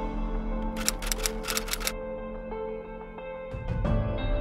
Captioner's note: soft music; typewriter clicking